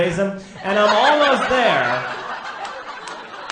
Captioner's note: audience laughs